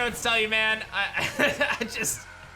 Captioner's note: chuckles